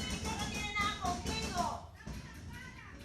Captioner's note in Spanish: golpes en la ventana